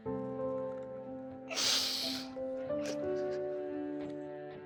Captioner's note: sniffles, sobs